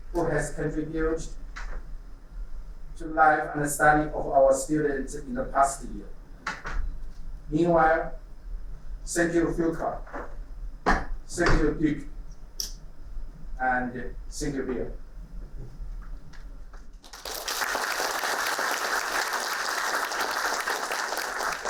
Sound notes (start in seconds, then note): 17.0 applauding